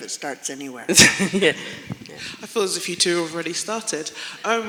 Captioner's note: laughter